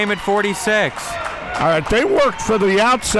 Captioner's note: crowd cheering